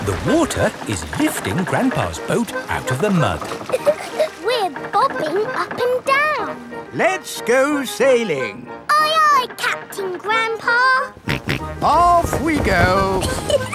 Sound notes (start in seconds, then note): 3.6 chuckles; 11.1 snorts